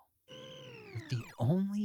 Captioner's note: laser beeping